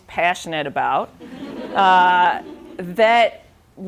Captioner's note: laughing